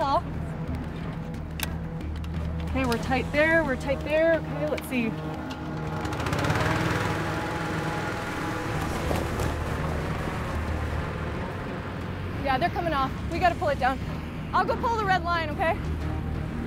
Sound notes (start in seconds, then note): 5.7 inflator fan starting cold inflation of balloon